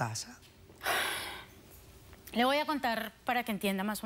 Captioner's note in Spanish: exhala